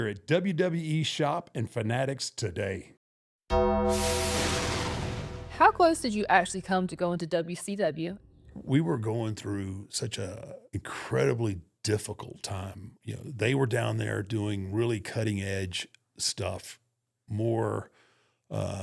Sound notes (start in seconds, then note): 3.6 bell tolls; 4.0 thunder rumbles